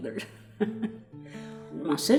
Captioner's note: laughing